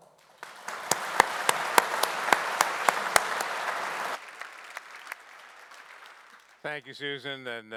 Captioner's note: audience applauding